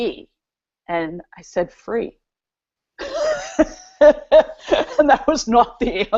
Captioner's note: laughs